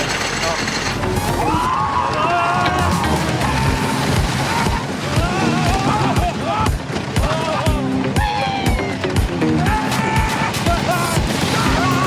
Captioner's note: screams at lighning speed